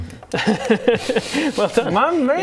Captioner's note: "impressed" laugh